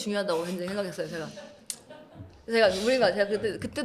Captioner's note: laughs